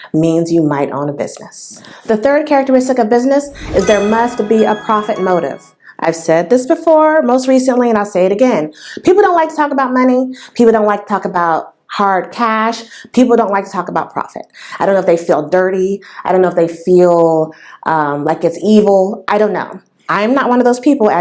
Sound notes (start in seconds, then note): 3.4 sound effect